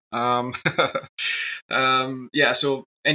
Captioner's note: laughs